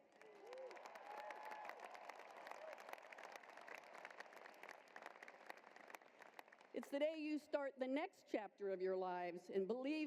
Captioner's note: cheering and applause